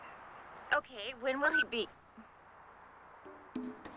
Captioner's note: beep